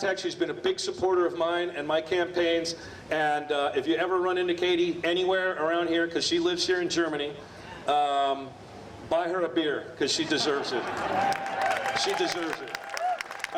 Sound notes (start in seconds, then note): 10.7 audience applauding